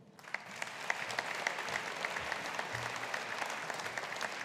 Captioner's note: audience applauding